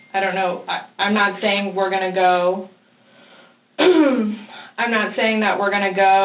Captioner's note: clears throat